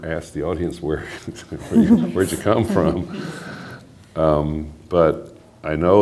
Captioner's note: laughter